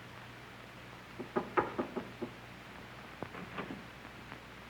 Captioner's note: knocking